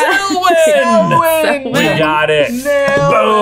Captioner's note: laughing